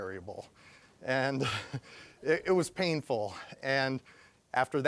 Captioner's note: chuckling